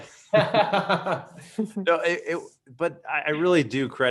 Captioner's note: laughing